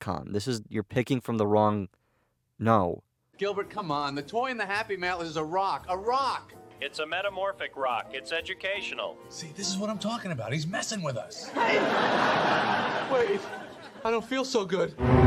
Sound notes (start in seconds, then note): 11.4 laugh track